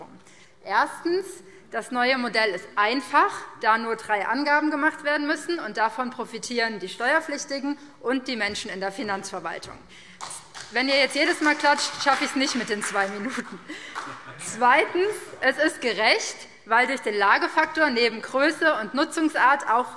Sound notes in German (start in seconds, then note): 10.2 Beifall BÜNDNIS 90/DIE GRÜNEN und vereinzelt CDU; 13.1 Heiterkeit